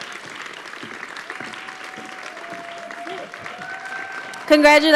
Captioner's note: audience clapping